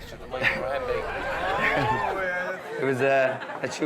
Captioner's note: guests cheering